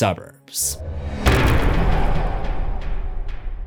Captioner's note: impact